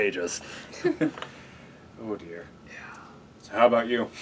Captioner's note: laugh